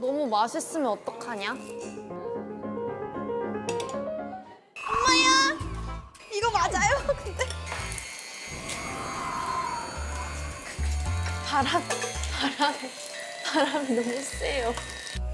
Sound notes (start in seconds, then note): 6.4 endless shrieks; 8.5 wind blowing